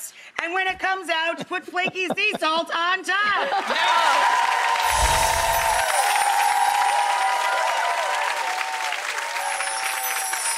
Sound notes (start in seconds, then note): 3.4 cheering; 5.3 clapping